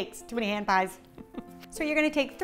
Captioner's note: laughing